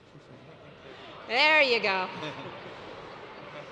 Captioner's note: laughter